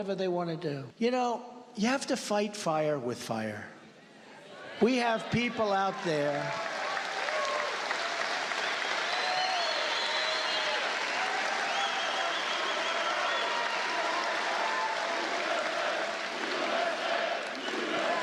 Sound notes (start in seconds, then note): 6.2 cheers and applause